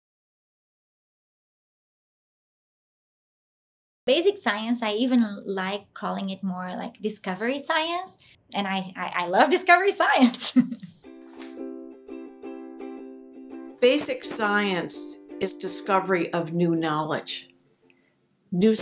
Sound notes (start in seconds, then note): 10.3 chuckles; 11.0 cheerful music